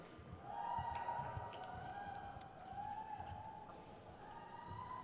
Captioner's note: crowd cheers